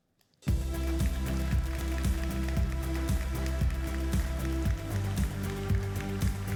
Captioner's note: upbeat music; applauding